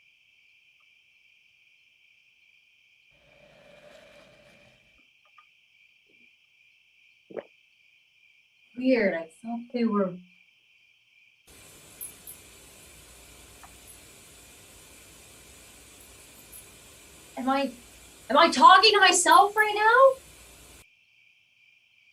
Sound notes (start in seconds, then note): 3.2 faint sweeping sound; 9.6 white noise from TV